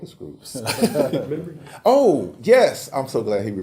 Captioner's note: laugh